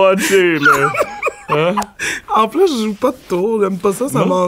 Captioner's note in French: éclat de rire